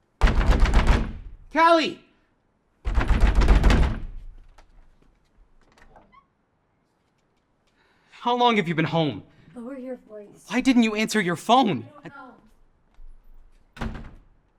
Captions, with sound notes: [pounding on door] Callie! [pounding on door] How long have you been home? What are you here for? Why didn't you answer your phone? [door clicks]